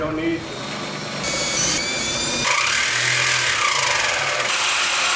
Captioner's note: tools running